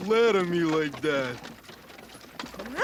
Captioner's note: huffs